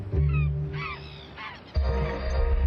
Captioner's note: skuas cawing